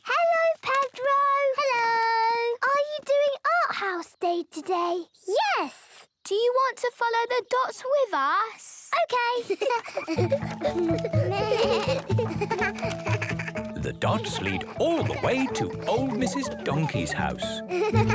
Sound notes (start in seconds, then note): 9.7 laughter; 10.7 bleating; 17.9 laughter